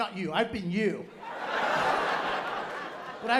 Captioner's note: laughter